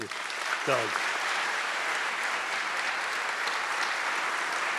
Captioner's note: audience clapping